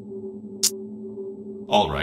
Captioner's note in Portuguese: Língua cliques